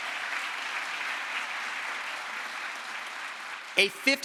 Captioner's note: crowd applause